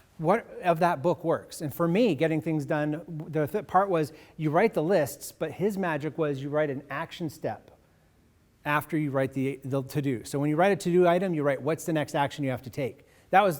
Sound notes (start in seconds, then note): none